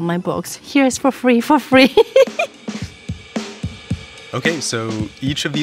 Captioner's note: laughing